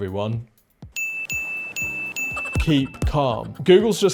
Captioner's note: ding ding ding ding